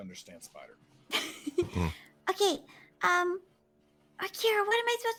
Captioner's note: laughs